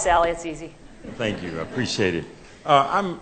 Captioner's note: laughter